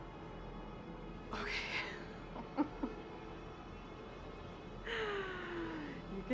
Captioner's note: laughing